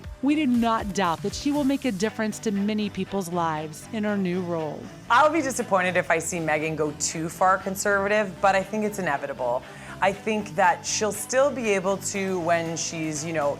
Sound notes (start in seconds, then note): none